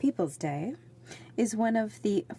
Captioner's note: speaking French